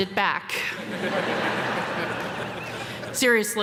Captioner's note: audience laughing